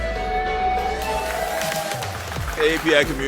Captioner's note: applause